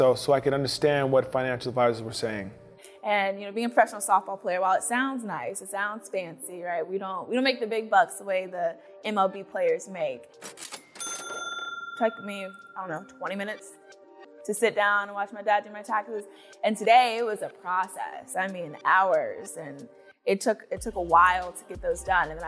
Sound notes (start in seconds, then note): 10.8 cash register dings